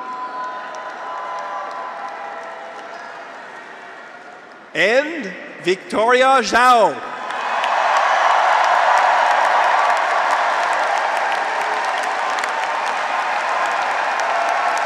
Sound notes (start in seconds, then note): 0.0 audience applauds; 0.0 graduates cheer; 7.2 audience and graduates cheering; 10.3 audience and graduates applauding